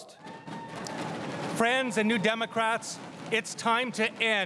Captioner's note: crowd cheering and applauding